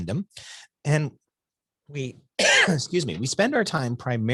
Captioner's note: coughs